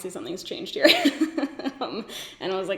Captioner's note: laughs